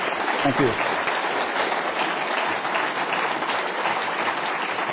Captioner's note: applause